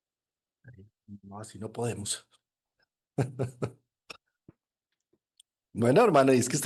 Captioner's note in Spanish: risas